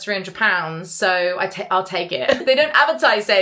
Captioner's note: laughs